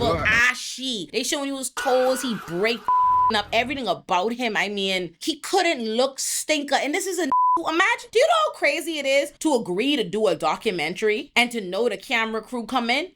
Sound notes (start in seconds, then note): 2.8 beep; 7.3 beep